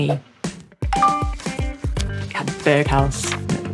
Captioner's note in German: Benachrichtigungston